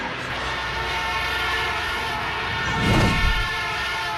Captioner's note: smashes; car horn honking